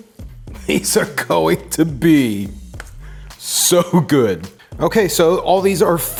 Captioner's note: chuckles